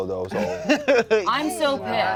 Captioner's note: laughs